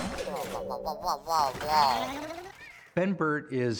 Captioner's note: WHlRRlNG; WALL-E SHUDDERlNG